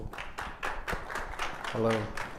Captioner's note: applause